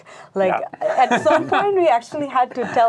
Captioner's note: laughing